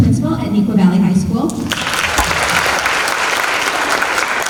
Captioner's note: applause